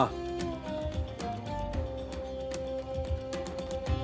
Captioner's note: speaking Turkish